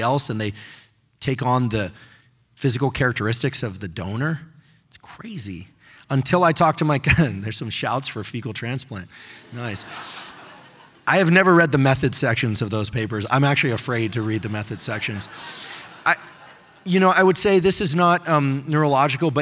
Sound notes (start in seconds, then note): 6.8 chuckling; 9.4 audience laughing